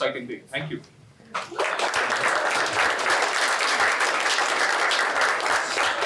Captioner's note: applause